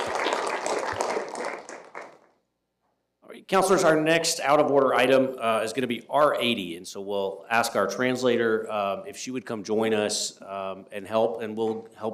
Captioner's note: applause